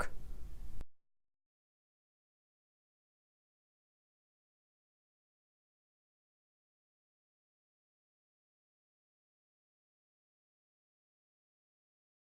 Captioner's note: pause in speaking